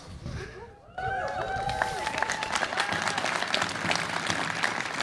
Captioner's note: audience applauds